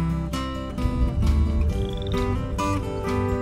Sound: frog chirping

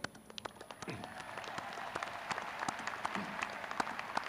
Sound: crowd cheering

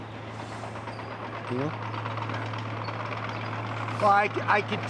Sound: diesel engine rumbles

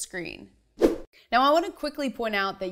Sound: animation whooshes

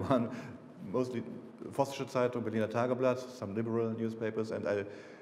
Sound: speaking foreign language

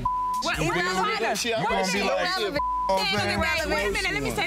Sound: beep; beep

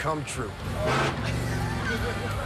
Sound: engine revving; laughter

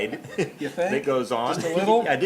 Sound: laughing; laughs

